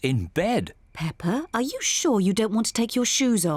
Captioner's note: none